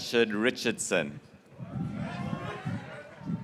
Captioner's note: graduates cheering